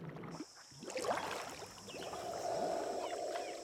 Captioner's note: insects chirping